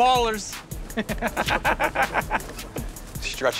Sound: laughter

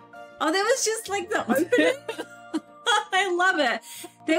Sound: both laugh

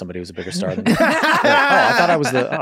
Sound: everyone laughs

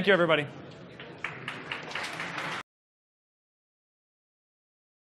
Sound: applause

